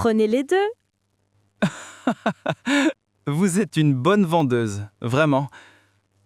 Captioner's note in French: rire